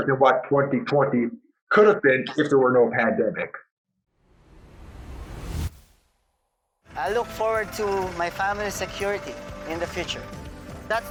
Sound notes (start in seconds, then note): 4.2 swoosh sound